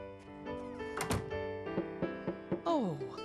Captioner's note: knocking